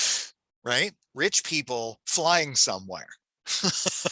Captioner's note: chuckles